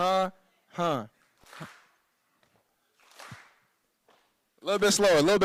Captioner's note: clapping